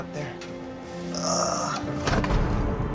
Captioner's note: strains